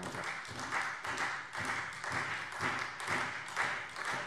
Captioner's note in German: Beifall SPD und Freie Demokraten